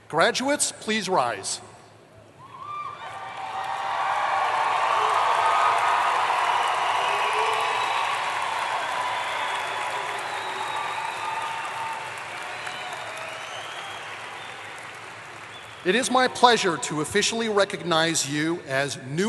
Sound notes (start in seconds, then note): 3.1 applause